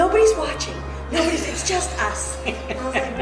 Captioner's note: laughing